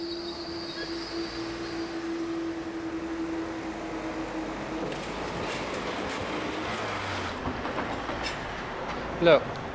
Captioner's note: traffic noise